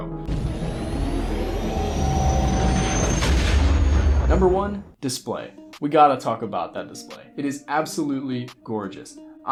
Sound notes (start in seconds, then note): 0.3 vrooooooom; 3.1 boom